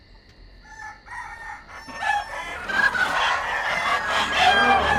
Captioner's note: geese honk